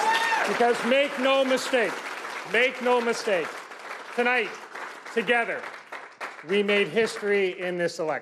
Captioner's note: cheers and Applause